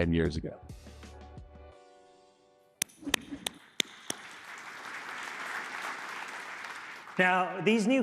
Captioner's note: applause